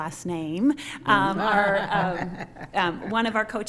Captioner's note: laughing